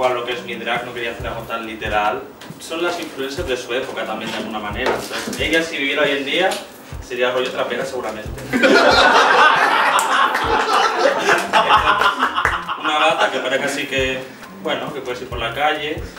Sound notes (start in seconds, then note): 8.4 laughs